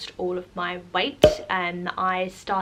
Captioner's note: pop